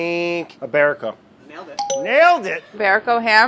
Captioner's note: dinging